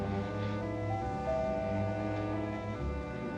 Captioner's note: rings bell